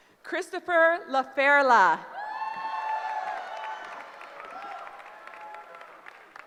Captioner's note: cheering